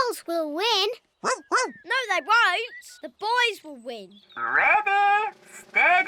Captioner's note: snorts; barks